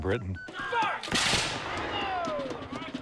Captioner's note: gunfire